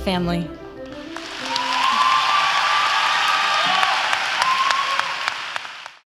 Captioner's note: applause and cheers